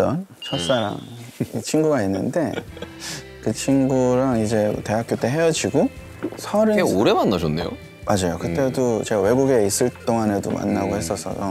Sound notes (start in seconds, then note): 2.4 haha